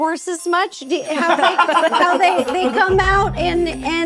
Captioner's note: all laughing